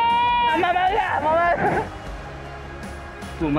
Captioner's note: laugh